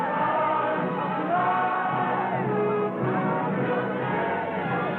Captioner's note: speaking chinese; shouting and singing